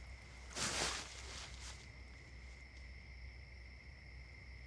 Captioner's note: hay rustling